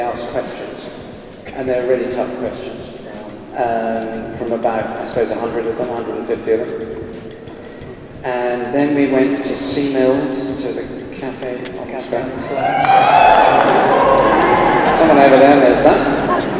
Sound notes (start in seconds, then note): 12.5 cheers